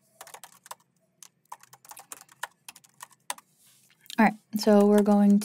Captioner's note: keyboard clacking